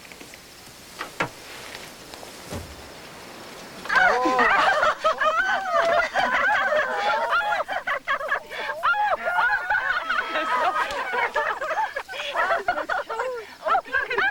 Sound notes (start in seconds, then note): 4.5 giggles of admiration